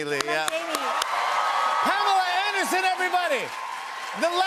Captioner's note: cheers and applause